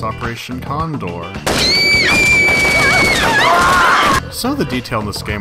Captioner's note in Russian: стрельба и крики паники